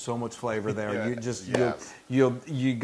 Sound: laugh

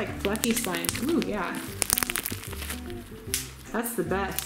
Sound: slime crackling

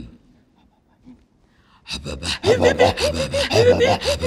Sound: laughing

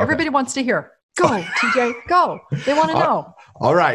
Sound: laughing

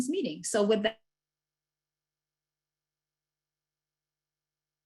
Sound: audio cuts out

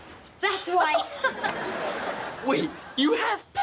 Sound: chuckles

